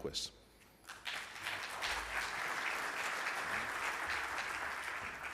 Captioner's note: audience applauds